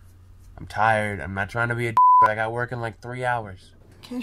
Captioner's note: beep